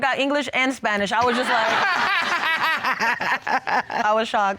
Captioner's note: all laugh